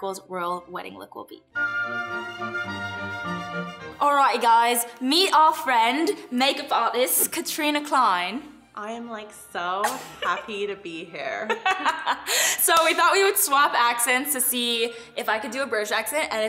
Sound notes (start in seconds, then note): 1.5 orchestra music; 11.4 laughter